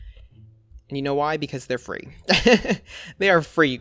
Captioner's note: laughs